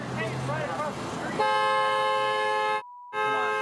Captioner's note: honking horn